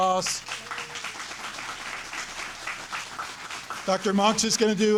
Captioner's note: audience applauding